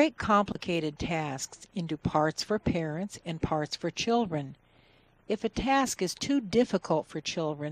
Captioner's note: TV is playing in the background